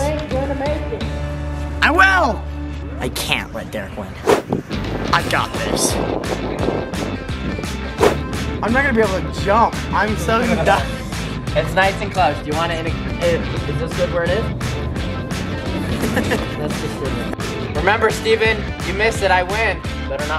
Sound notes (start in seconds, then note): 10.9 chuckles; 15.7 laughs